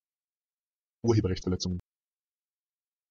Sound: fast Pronunciation

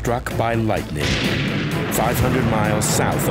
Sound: thunderclap

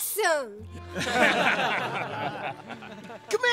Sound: laughing

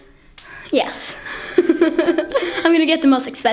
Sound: laughs

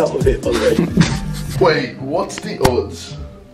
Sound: laughter

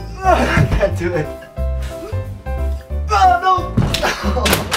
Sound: grunts; grunting; thud; laughing

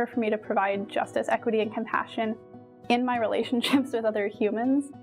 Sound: chuckles

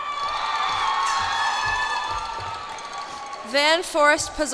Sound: cheers and applause

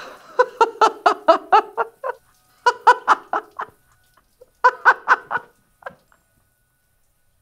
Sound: laughing

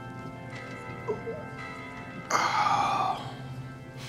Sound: Key sighs

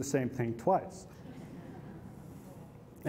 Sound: laughter

